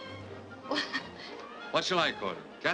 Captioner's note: laughs nervously